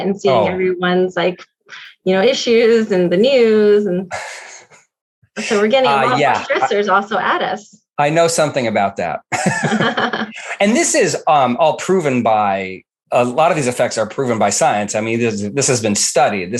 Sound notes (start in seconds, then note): 8.6 both laugh